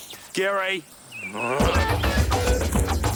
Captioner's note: groans; energetic funky music